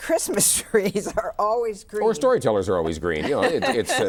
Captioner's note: laughs